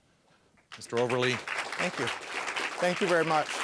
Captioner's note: applause